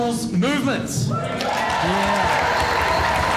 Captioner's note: crowd cheering